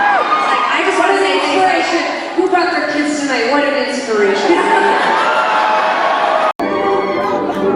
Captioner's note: laughing